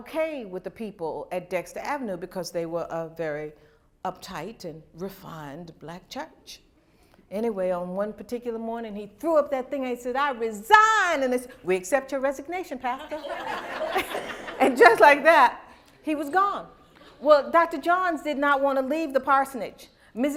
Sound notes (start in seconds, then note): 12.9 laughter